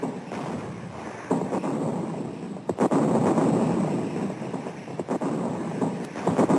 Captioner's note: heavy artillery booming continues